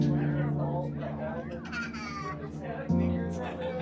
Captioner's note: baby giggles